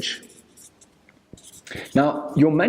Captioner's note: marker screeching